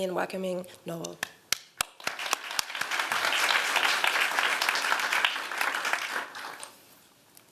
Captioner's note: applause